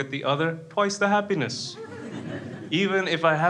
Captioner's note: crowd laughs